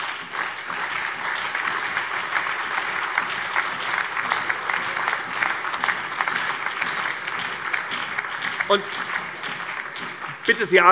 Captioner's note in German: Allgemeiner Beifall